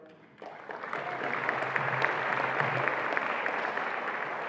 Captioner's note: attendees applauding